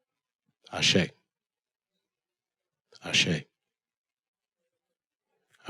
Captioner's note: speaking in foreign language